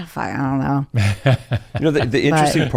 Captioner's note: laughs